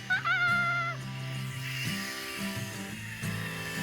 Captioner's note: mellow music; squeals